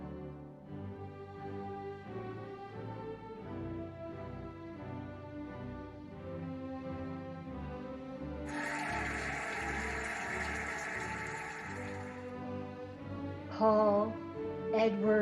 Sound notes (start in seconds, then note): 0.0 cheerful music; 8.4 cheering and applauding